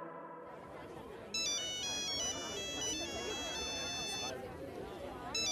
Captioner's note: phone ringing